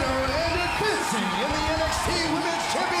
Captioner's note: crowd cheering